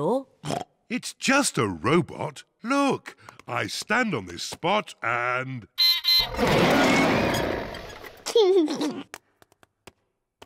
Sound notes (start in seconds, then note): 0.2 oinks; 5.8 beeps and roars; 8.0 laughs